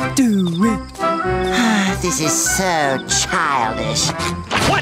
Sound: sighing

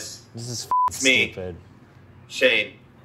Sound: beep

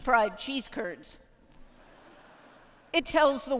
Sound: laughter

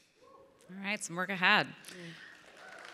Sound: crowd cheering

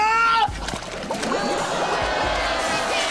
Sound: bubbling

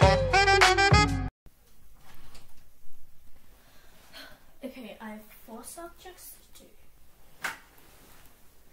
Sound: sigh

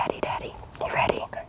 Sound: whispering

